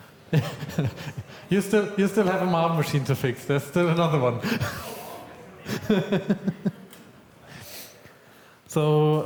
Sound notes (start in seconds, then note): 0.4 laughs; 5.1 disappointed noises from SMMK volunteers; 5.6 laughs